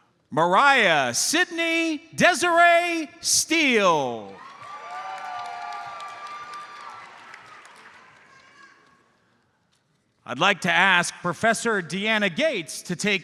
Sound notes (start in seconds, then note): 4.3 audience cheers and applauds